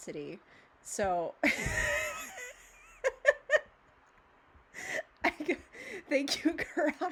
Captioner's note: hysterical, awful, evil laughter